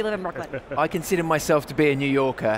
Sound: laughter

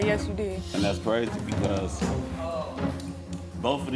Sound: audience oohing

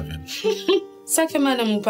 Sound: giggles

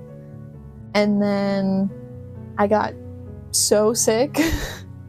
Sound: laughter

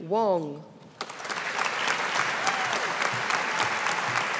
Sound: audience applauding

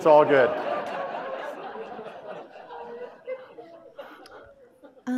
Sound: audience laughing

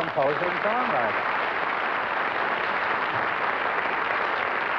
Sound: applause

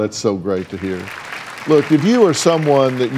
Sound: audience applauds

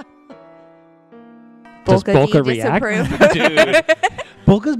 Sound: laughter, and a brief pause, then adds

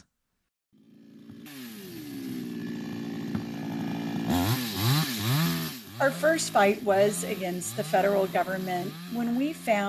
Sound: chainsaw Sounds

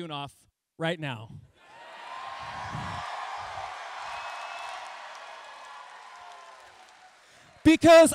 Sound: cheering

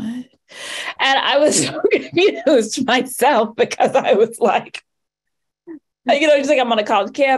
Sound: laughs

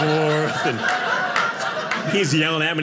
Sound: audience laughing

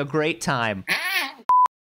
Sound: growl

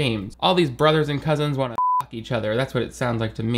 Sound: beep

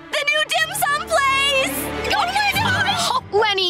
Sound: squealing

